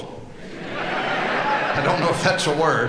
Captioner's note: audience laughing